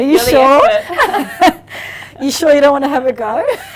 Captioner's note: both laughing